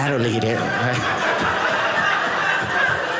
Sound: audience laughing

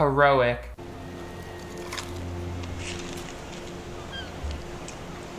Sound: corn dog crunches

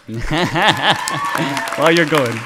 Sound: cheering

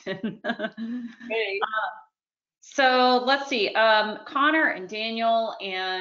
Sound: laughs

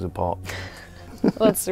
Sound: laughing

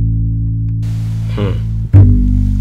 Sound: humph

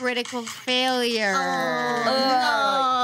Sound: group groans

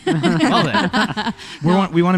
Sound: laughter

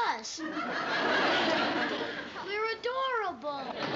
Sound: laughter

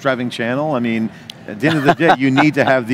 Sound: laughing

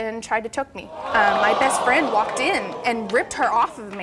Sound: audience gasps

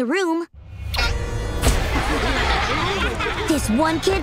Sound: laughing

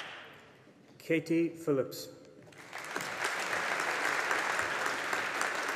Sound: audience applauding

